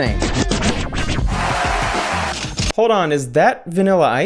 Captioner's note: record scratching; crowd cheering